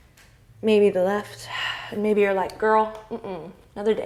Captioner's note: exhale